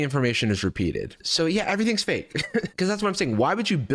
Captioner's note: chuckles